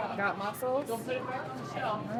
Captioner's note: people chattering